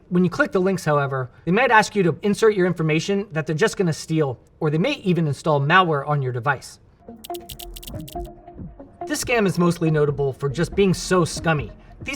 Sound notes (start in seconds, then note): 7.0 lively music; 7.2 graphics clacking